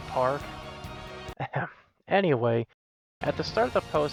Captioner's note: ahem